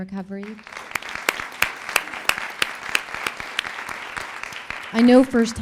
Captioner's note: applause